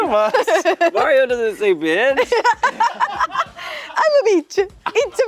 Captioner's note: laughing; laughing